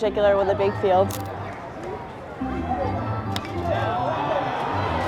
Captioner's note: chatter